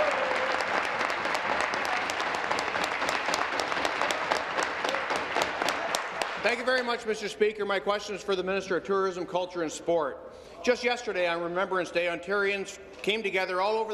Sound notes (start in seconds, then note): 0.0 applause; 2.2 cheers